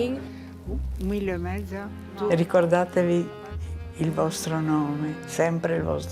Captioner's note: speaking in foreign language